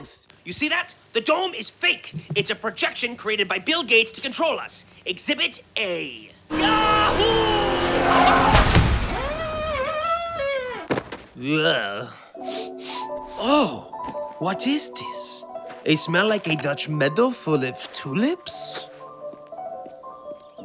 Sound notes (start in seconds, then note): 11.2 grunts; 12.2 sniffs